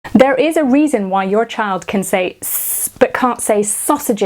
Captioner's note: hissing